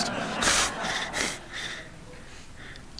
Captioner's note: laughter